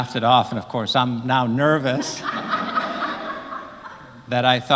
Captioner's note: laugh